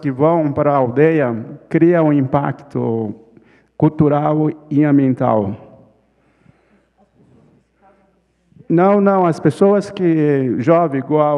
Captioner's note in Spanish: ponente habla en portugués